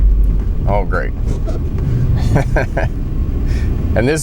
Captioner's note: laughs